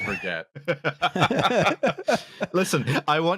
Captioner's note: laughter